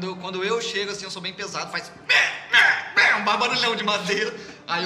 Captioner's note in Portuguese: piso rangendo